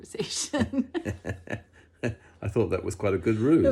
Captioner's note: both laugh